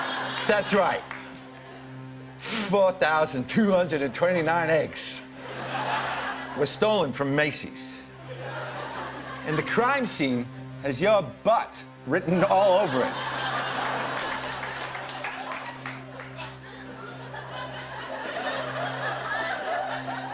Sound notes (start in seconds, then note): 12.8 laughter